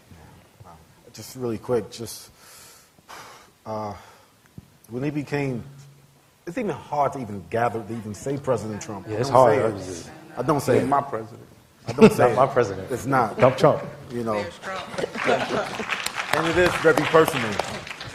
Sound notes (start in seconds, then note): 11.9 laughter; 15.0 applause